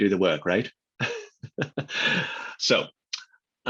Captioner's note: laughs